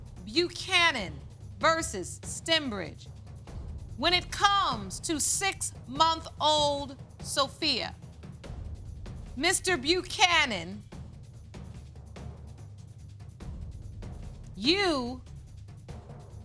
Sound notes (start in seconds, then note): none